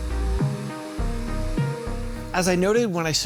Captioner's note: quiet Vacuum Operating Sounds